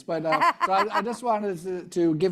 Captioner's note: laughing